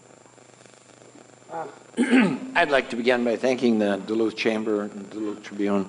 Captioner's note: clears throat